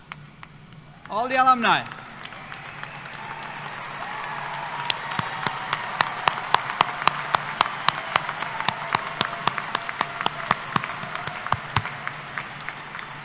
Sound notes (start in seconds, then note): 2.7 applause